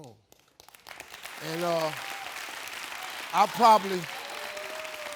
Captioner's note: audience applauding